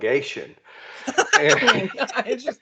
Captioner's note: laughing